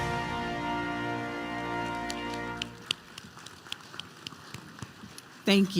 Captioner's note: applause